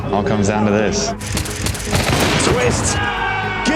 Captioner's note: all cheer